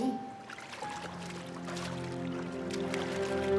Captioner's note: splashing